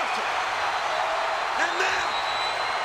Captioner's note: crowd cheering